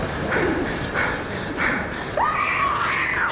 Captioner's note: screams